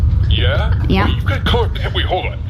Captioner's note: excited